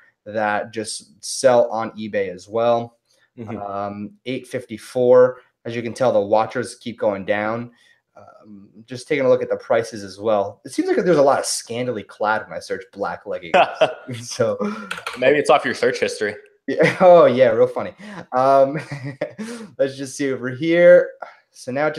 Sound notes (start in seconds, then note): 13.4 laughs; 17.9 laughs